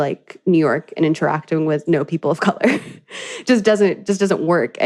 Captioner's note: laughs